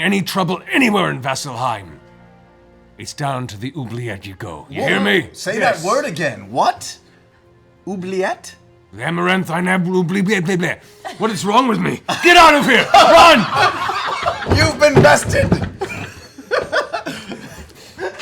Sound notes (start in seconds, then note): 12.5 laughter; 17.3 laughs